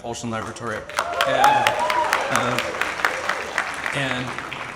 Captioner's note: audience applauds and cheers